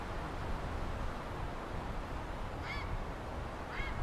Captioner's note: heron calling